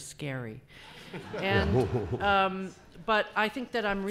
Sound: laughing

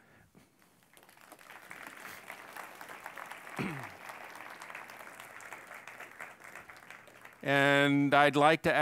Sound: applause

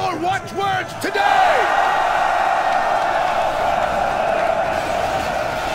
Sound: cheering

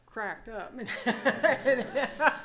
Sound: laughter

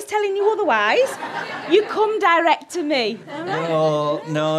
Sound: audience laughter

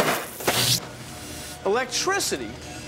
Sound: <i> electrical buzzing</i>; <i> electrical buzzing</i>

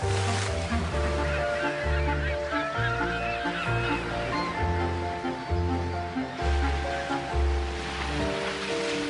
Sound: sounds of sea birds

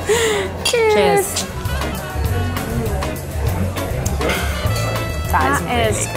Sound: glasses clinking

